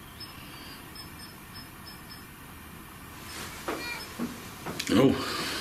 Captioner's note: metre beeping